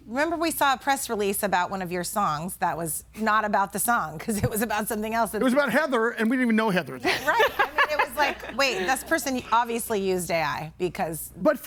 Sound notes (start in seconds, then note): 7.0 laughs